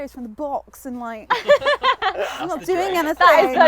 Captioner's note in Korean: 웃음